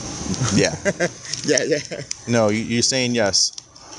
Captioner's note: laughing